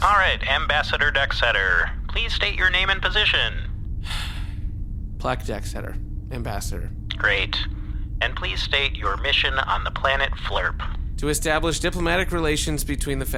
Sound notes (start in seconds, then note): 4.0 sigh